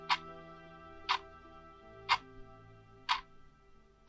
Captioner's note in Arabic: دقات الساعة